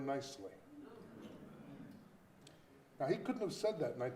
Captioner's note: audience groaning